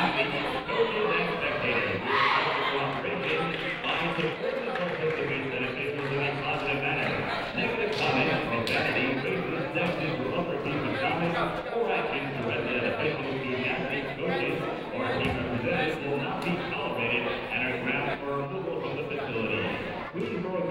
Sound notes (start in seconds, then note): 3.1 muffled voice speaking over speaker